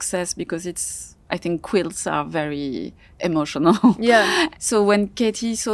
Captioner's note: chuckles